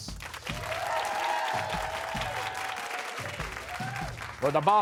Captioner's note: cheers and applause